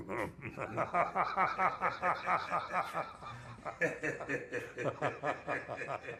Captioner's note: Jack laughs; Roger laughs